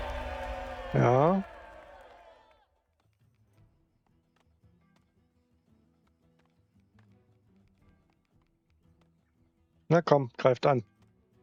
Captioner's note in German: jubel